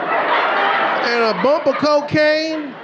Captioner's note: audience laughing